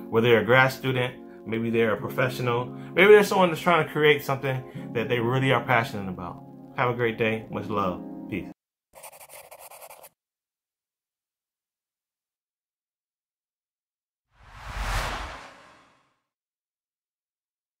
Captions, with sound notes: Whether they're grad student, maybe they're a professional, maybe there's someone that's trying to create something that they really are passionate about. Have a great day with love, peace. (pencil on paper) (dramatic sound)